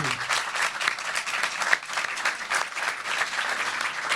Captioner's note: applause